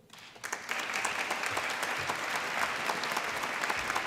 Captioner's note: applause